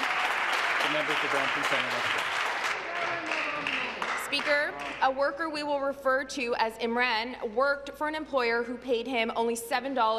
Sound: applause

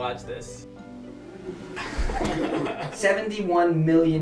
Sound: crew laughing

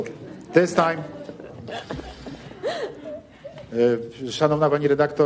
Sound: laughter

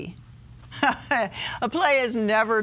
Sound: laughs

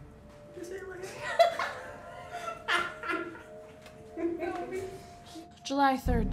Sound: laughter

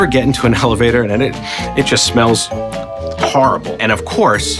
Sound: sniffs

